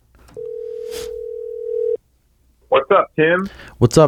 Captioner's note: phone ringing